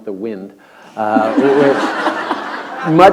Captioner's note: laughter